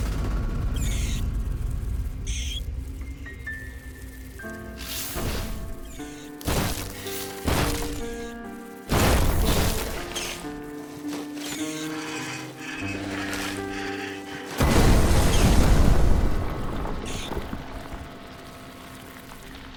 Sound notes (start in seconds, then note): 0.1 plant screeching; 5.2 plant pounding; 5.3 ship crunching; 14.2 ship blasting